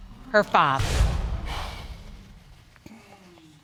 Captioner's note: sighs